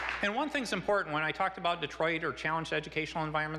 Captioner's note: applause